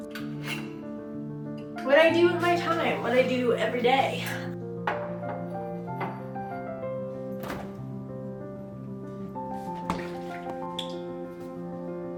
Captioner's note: match strikes